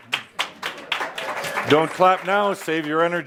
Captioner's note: some applause